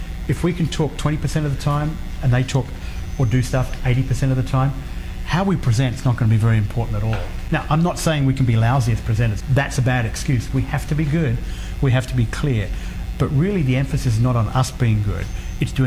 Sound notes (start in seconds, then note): none